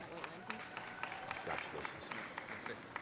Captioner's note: audience applauding; audience cheering